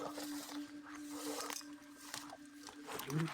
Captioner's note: rustles